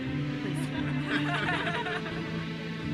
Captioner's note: attendees chuckle; uplifting music continues